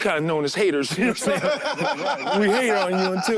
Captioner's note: laughs